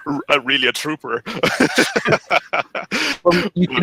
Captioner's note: laughs